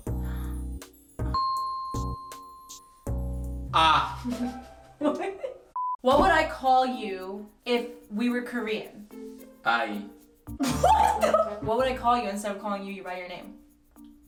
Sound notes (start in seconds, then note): 0.0 speaks in Korean; 0.0 romantic music; 0.2 gasps; 1.3 bell dings; 5.0 laughing; 9.5 speaks in Korean; 10.6 laughing